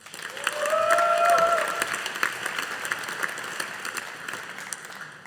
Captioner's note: audience applauding